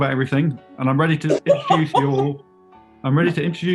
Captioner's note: laughing